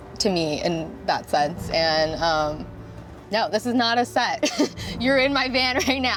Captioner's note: giggles